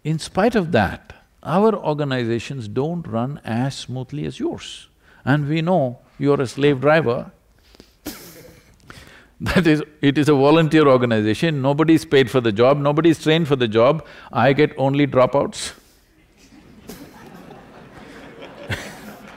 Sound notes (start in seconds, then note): 7.8 laughs; 16.2 laughs; 16.4 laughter/Applause